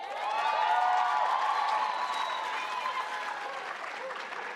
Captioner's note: audience cheers